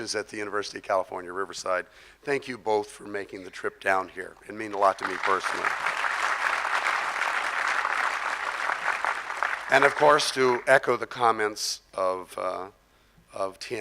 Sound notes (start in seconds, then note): 4.8 crowd applause